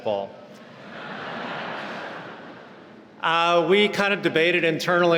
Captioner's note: laughing